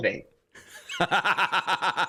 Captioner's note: laughter